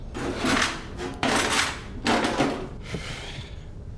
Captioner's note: rustling